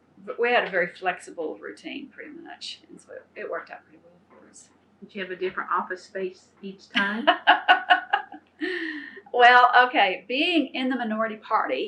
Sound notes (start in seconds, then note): 7.0 laughter